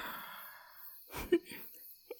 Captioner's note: giggling